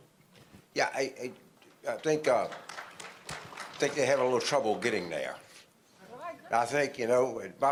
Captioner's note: applause